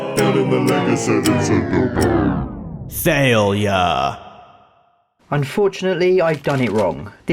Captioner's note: slows down and pitch falls